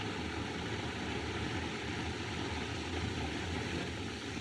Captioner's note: none